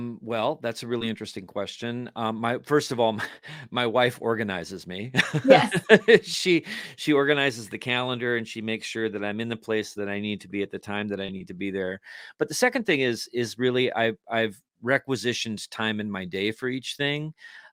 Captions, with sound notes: - Well, that's a really interesting question. First of all, my wife organizes me. (laughs) - Yes. - She organizes the calendar and she makes sure that I'm in the place that I need to be at the time that I need to be there. But the second thing is really, I've requisitioned time in my day for each thing.